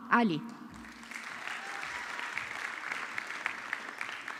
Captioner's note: audience clapping